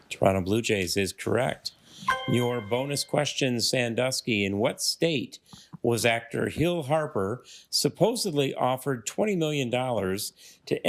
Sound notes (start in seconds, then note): 2.0 triumphant chime